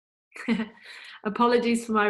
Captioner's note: laughs